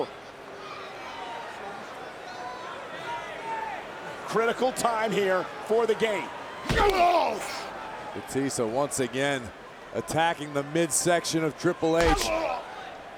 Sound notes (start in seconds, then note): 1.2 crowd clamoring; 6.6 wrestlers grunting